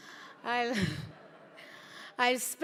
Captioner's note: laughter